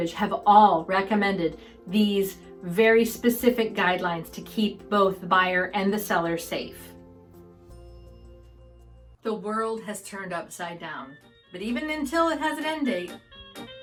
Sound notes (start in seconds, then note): 6.8 upbeat music; 7.7 bell lightly rings